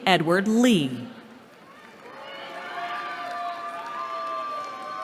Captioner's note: cheering